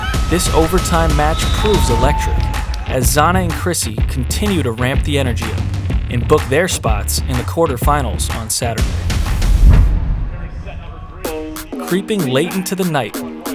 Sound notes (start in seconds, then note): 8.9 audio hit; 11.0 energetic music